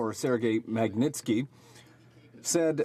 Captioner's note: speaking French